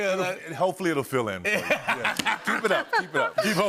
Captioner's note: laughter